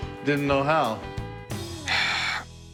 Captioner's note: sighs